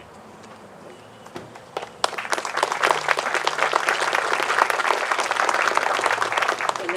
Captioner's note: applause